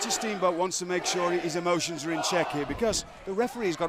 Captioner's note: crowd cheering